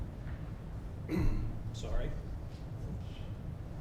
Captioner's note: clears throat